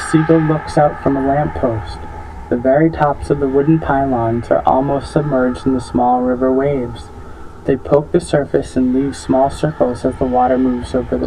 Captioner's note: chanting voices intensify